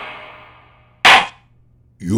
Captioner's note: gavel slams!